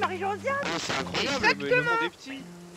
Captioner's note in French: rires